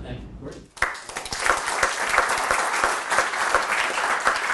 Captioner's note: audience applauds